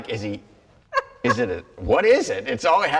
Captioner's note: laughs